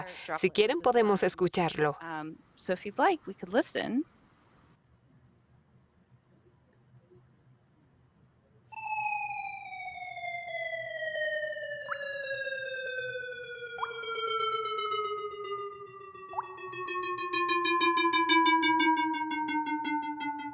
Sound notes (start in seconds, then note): 8.7 silbidos ululantes; 14.5 silbidos ululantes; 16.3 gota de agua; 17.7 silbidos ululantes